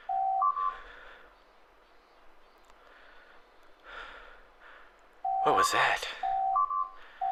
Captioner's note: beep Beep Beep